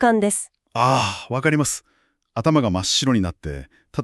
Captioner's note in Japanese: ため息